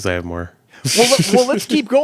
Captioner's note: laughing